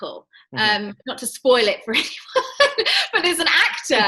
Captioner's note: laughs